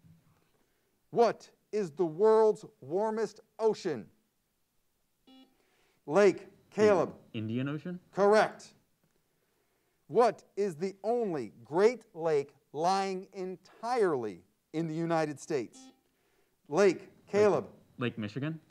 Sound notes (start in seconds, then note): 5.2 buzzer sounds; 15.6 buzzer sounds